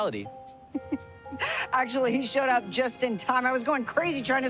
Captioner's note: Elena laughs